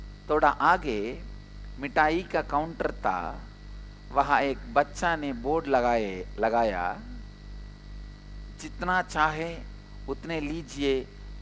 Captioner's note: in hindi